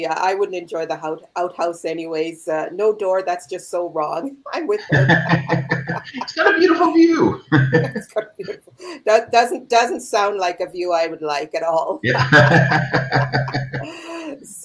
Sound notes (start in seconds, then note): 4.7 laughs; 12.0 both laugh out loud